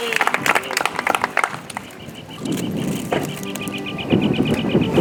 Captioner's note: audience applauds; soft music